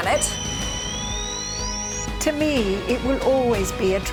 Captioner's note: satellite beeping